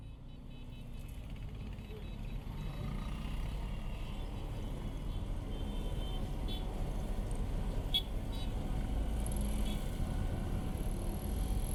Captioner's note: sounds of traffic